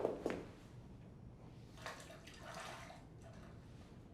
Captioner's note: bath water sloshes